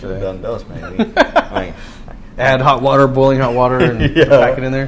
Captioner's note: laugh